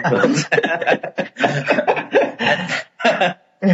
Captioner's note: laughing